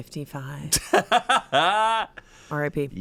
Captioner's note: laughs